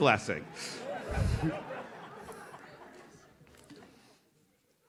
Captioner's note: audience laughs